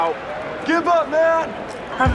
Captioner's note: yells